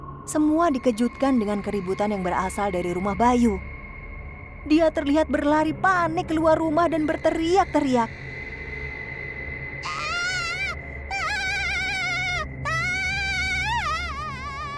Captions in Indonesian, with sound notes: ..semua dikejutkan dengan keributan yang berasal dari rumah Bayu Dia terlihat berlari panik keluar rumah dengan berteriak teriak.. (Bayu berteriak-teriak)